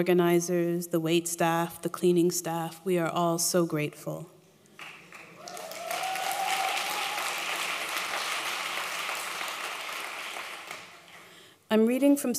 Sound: applause

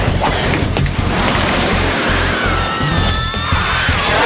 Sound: alarm beeping

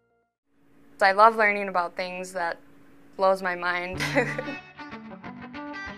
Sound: laugh

